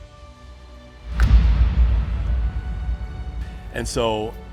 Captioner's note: arrow strikes